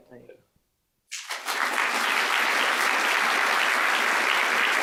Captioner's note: applause